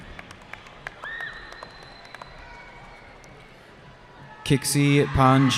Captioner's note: cheering